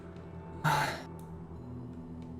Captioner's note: sighs